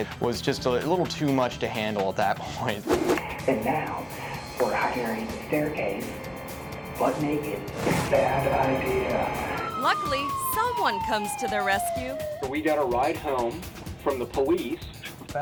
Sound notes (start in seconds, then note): 2.8 screen whooshes; 9.3 siren wailing